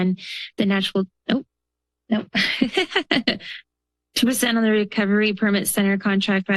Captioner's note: laughter